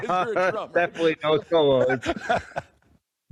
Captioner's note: laughs; laugh